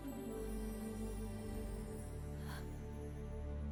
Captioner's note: light gasping